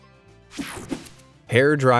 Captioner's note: graphics whoosh; light, upbeat music